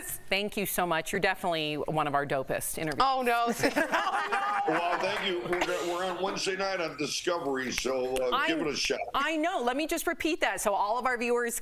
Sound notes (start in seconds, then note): 3.4 laughter